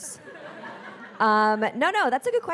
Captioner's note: audience laughing